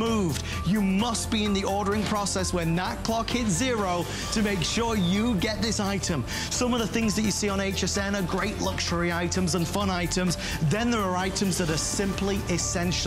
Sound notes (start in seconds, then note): none